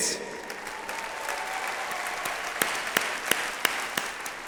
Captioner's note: audience applauds